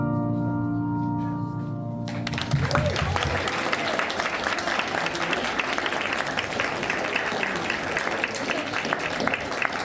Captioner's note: upbeat music; children applauding